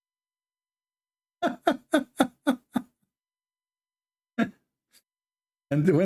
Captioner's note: Ketawa